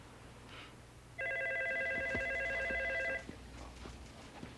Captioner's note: phone ringing